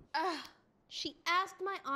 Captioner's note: Leah sighs